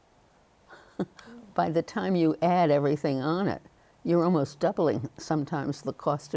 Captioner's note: chuckles